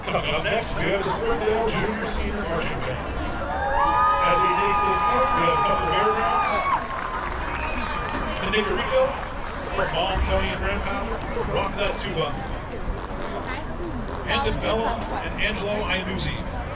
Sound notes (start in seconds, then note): 4.9 applause